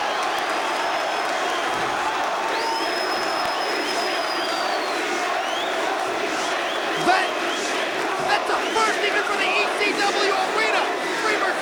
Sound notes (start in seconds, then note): 0.2 crowd vocalizing; 3.3 crowd chanting